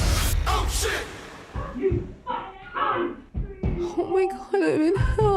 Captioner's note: neighbours shouting and banging walls